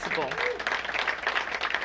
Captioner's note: applause